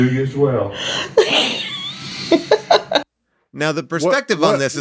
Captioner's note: laughs